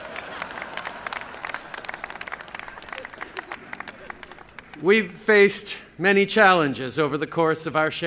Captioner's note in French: Applaudissements